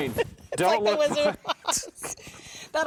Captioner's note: laughing